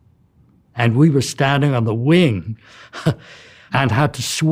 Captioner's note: laughs